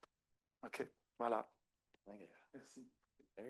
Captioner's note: speaking French; speaker speaking French